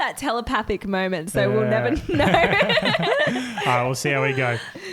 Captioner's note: laughs